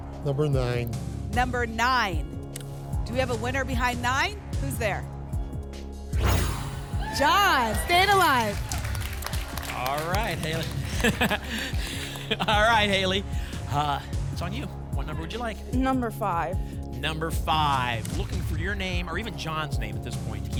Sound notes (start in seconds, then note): 6.1 whoosh; 8.4 applause and cheering; 10.5 laughs